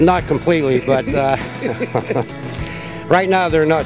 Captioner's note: people laughing